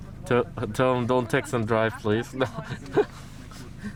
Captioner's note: laughs